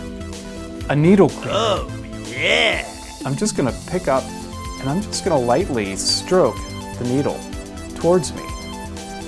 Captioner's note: silly voice ohh yeah